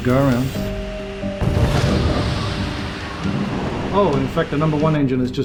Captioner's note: plane engine blasts